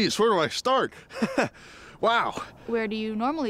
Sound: chuckles

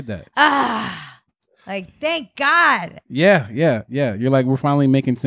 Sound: groans

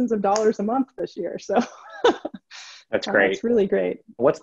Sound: laughs

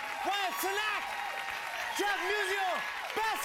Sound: cheers and applause

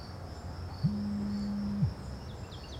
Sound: phone buzz

